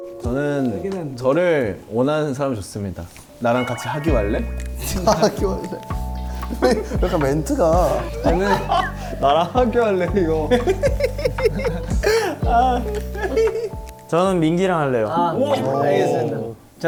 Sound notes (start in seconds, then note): 10.4 giggling